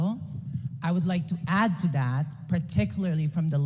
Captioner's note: none